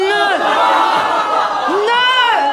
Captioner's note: laughter